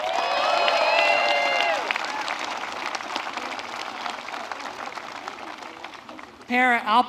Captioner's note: applause